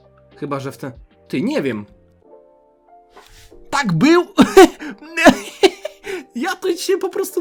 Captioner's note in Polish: śmiech